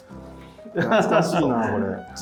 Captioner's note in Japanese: 深呼吸